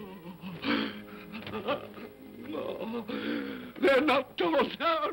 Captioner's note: Scrooge whimpers